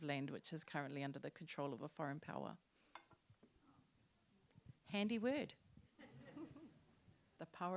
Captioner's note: laughter